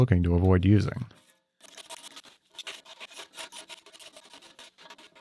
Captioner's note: table scratching